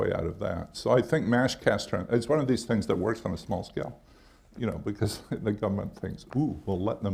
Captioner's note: chuckles